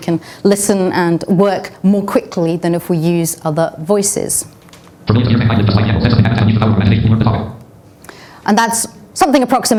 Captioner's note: very fast talking